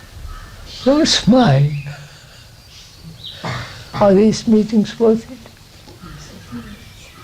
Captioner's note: laughs